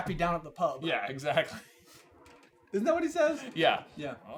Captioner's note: laughs